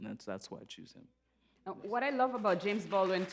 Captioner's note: applause